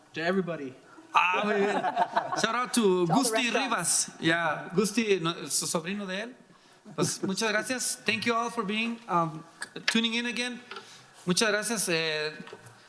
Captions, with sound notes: - To everybody. (laughing) - Shout-out to. (speaking in foreign language) Thank you all for tuning in again.